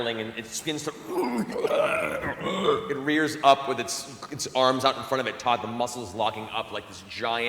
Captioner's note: snarl